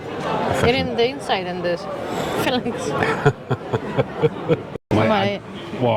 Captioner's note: laughter